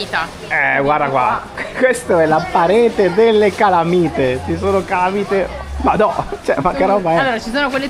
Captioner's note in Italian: risate